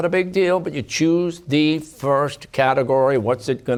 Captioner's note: none